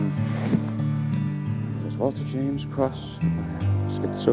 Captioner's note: muttering